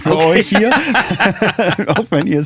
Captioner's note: beide lachen